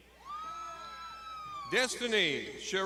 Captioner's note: crowd shouting